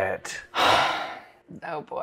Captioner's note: sighing